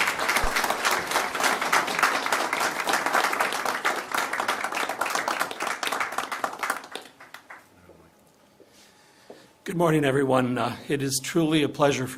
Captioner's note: applause